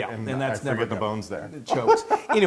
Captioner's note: laugh